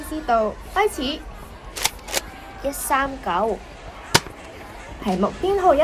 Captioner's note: reloads nerf gun